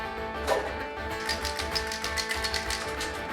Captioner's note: paint cans shaking